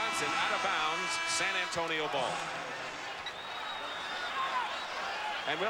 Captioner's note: horn blows